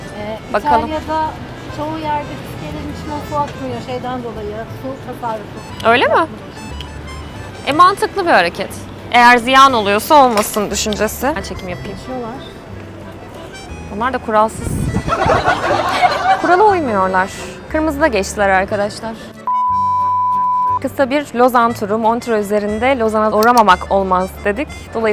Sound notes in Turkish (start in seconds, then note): 15.0 kahkaha